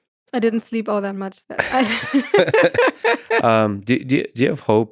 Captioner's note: laughs